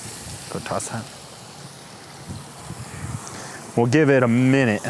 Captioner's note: food sizzling